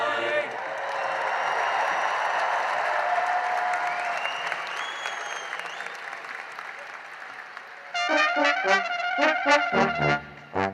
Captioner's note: cheering and applause